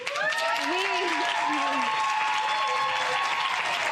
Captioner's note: audience applause